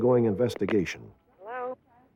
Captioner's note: on phone